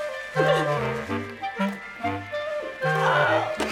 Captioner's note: cries